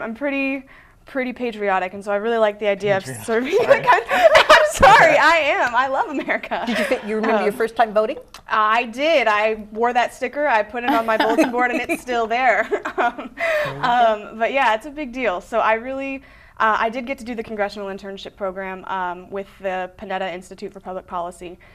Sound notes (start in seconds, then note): 2.9 laughing; 10.8 laughter; 13.4 laughing